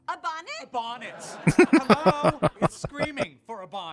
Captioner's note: laughing